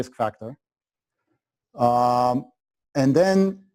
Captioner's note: pause